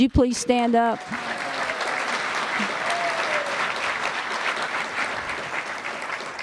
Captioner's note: applause